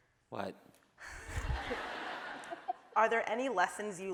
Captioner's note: laughing